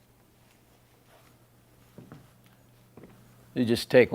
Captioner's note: footsteps approaching